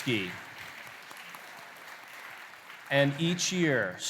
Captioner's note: applause